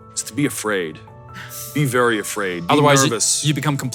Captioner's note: laughs